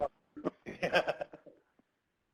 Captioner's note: laughs; laughter